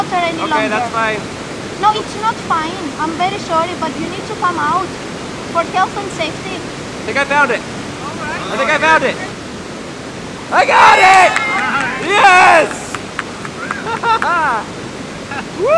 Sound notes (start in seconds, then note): 11.2 applauding